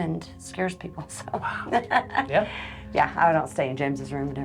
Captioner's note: chuckles